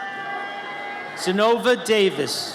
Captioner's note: audience cheers